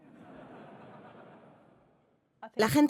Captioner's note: audience laughing